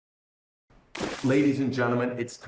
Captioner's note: water splashing